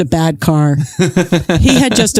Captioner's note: laughs